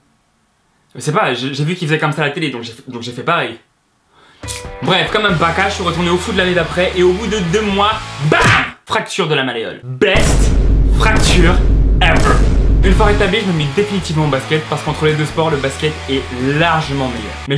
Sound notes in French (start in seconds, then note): 4.3 tchip